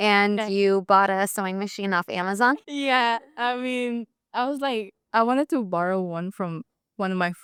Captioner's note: speaking